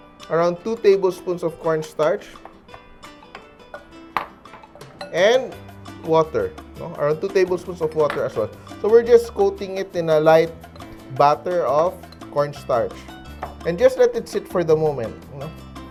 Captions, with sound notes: Around 2 tablespoons of cornstarch. [Clang] And -- water, right? Around 2 tablespoons of water as well. So, we're just coating it in a light -- batter of -- cornstarch. [Clang] And just let it sit for the moment, right?